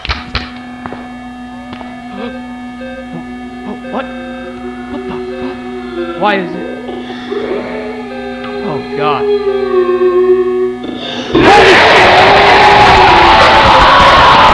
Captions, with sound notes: [computer beeping] W-What?- What the fu-- [disembodied crying] [disembodied crying] Why is it--? [disembodied crying] [disembodied crying] Oh, God! [disembodied moaning] [disembodied moaning] HOLY SHI--!